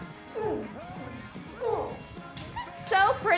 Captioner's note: Tommy moans; Ellie moans